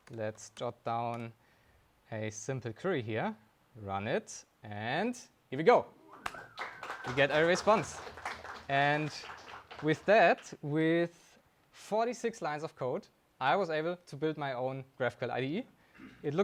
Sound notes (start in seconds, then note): 6.0 attendee whistling; 6.1 audience applauding